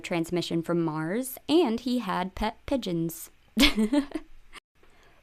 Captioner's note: laughter